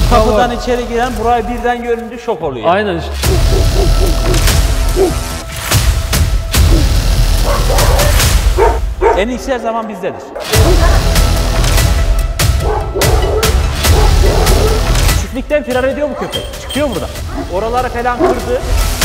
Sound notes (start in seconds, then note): 3.3 dog barks; 10.3 dog barks